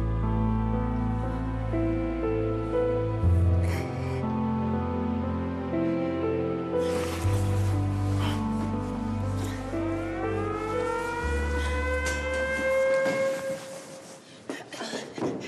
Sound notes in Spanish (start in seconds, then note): 4.7 sollozos; 10.1 la sirena vuelve a sonar y de pronto se detiene